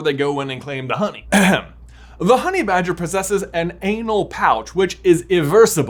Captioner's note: clears throat